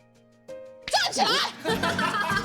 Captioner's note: coughs